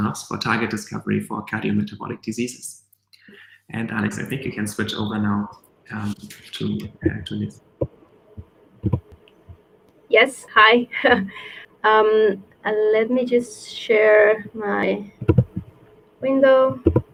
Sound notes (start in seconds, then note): 10.8 laughs